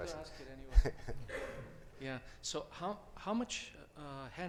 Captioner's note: chuckles